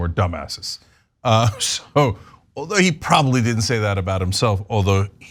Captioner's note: laugh